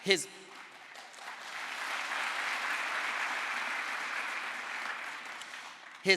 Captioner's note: crowd applause